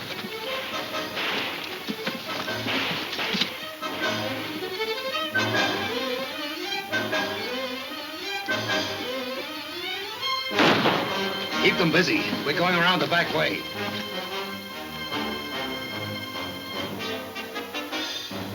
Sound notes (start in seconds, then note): 0.5 distant guns firing; 10.5 gun firing; 16.0 dramatic music continues; 18.3 horse whinnying